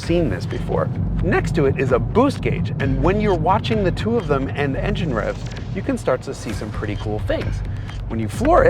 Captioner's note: together with engine revs